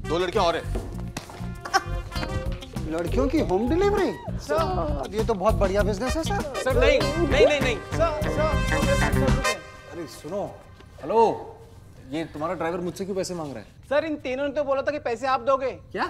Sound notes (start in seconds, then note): 1.6 Sameera laughs